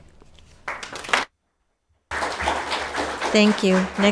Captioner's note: audience applauding